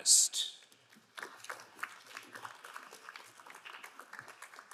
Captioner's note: crowd applauding